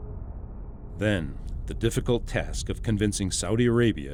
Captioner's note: voiceover